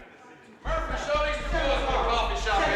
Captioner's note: loud overlapping chatter